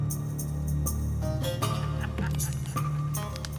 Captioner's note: laughing